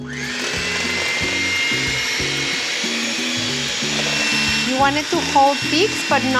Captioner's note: whirring